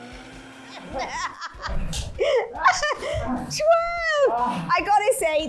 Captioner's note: laughing